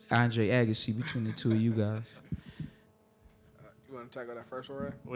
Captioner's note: audience laughing